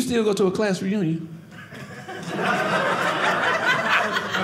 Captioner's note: audience laughing